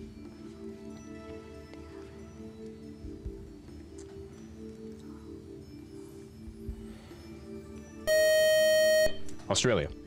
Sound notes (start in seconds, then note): 8.0 time-is-out buzzer